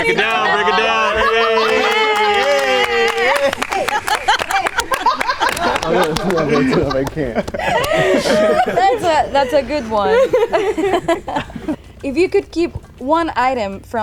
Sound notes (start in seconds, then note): 1.8 cheering; 3.7 all laugh